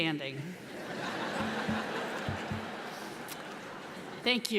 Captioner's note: audience laughs